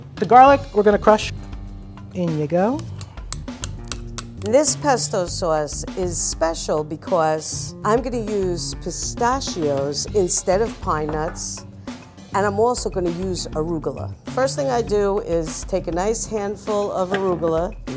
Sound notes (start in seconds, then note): 2.8 knife scraping